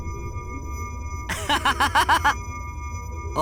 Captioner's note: laugh